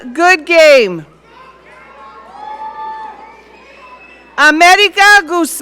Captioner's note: audience cheering